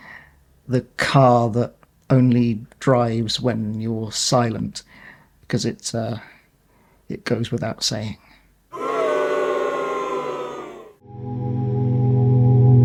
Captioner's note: crowd boos